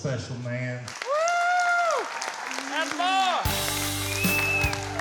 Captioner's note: cheering, clapping; slow guitar music